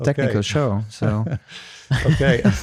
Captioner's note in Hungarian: nevetés